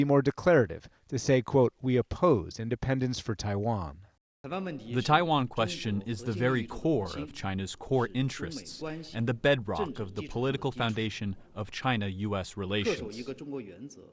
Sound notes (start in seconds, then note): 5.6 through translator